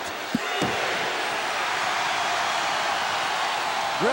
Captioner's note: audience cheering